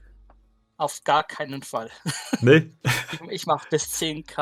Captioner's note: laughter